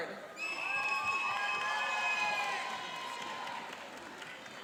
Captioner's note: cheering and applauding